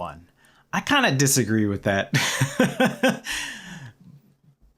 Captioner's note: laughter